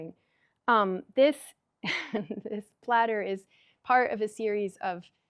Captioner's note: chuckles